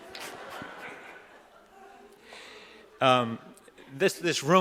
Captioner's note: audience laughing